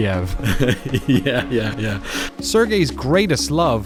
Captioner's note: laughing